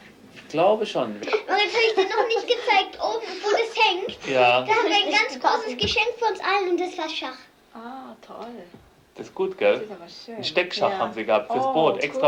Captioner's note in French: conversation non traduite